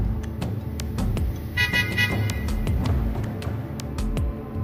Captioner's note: honking